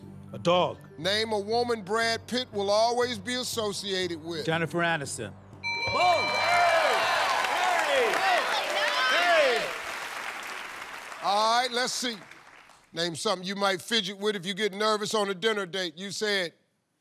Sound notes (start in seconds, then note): 5.6 bell rings; 5.8 cheers and applause